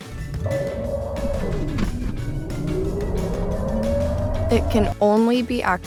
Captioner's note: electric motor revving